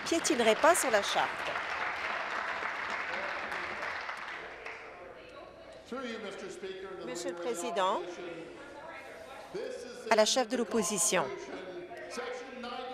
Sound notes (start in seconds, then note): 2.2 applause